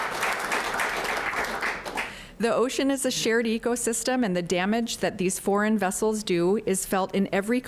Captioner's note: applause